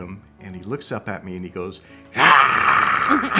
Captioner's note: man growls